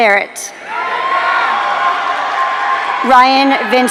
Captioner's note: audience cheering